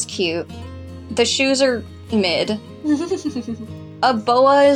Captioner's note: giggle